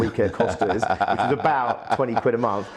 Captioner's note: laughs